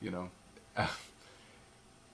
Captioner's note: laugh